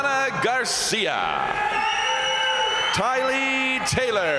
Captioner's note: crowd cheering; crowd applauding